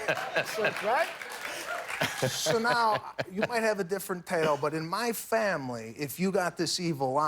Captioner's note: laughter